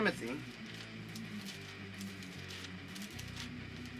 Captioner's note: turning Bible pages